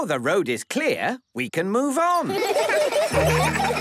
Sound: laughter

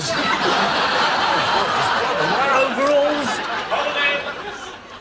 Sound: laughter

